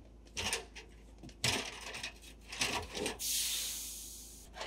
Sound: ladder rattling

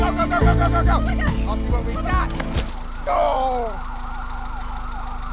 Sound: splat

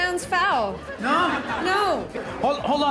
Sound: laughter

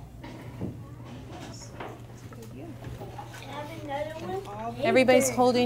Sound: sounds of children working

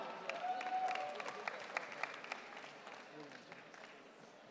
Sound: audience cheering

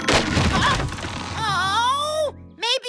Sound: crash!

